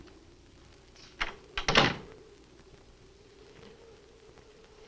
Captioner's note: door closes